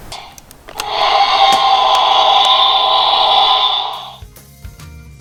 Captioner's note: dinosaur roaring